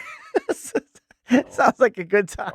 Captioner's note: laughing